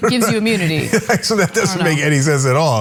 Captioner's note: laugh